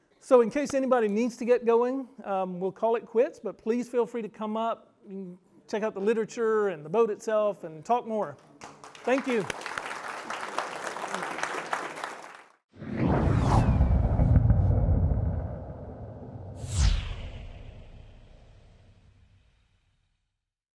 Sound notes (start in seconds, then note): 8.5 audience clapping; 12.7 loud air whooshing